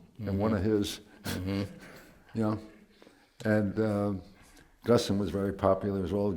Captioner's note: laughs